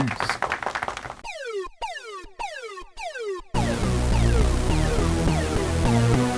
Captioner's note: old school computer sounds